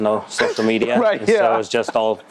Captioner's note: laughs